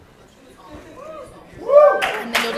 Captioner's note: applause